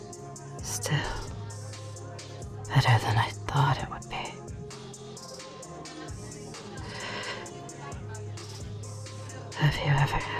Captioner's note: close whisper